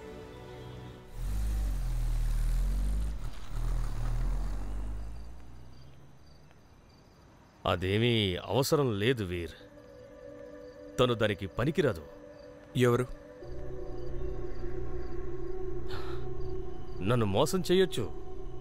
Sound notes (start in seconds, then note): 1.1 car revving